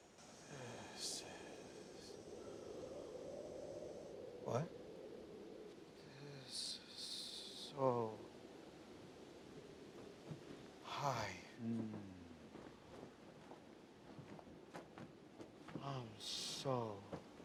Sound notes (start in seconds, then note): 2.2 wind whistles